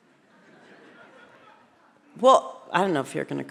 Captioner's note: audience laughs